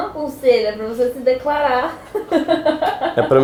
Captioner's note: laughing